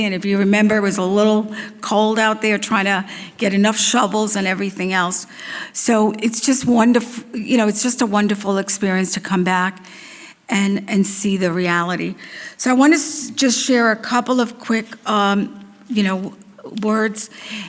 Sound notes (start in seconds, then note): none